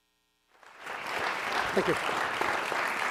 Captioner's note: audience applauds